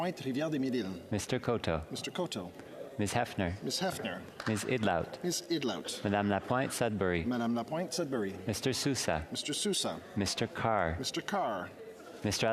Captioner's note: calling of recorded vote